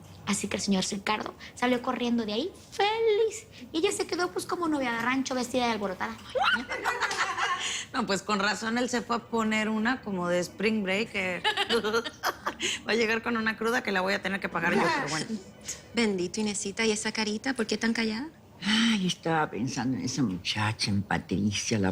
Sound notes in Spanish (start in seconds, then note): 6.2 Exclamaciones